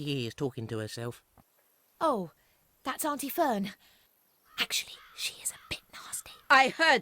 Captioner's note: whispers